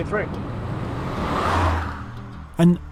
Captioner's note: car roaring